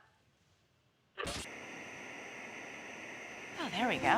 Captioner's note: static plays